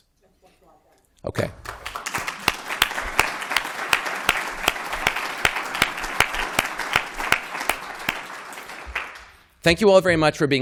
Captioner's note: applause